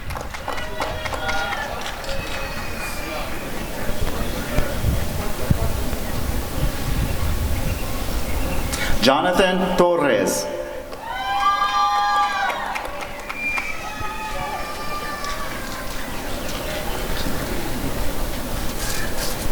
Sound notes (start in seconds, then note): 0.0 applause and cheering; 10.9 applause and cheering